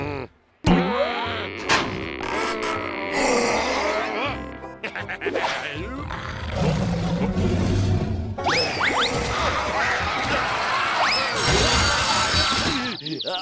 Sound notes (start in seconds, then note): 3.4 growling; 5.9 rabbits growling; 9.3 buzz saw grinding; 11.7 crashing; 13.2 birds tweeting